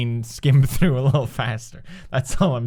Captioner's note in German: lacht